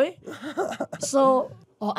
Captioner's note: laughs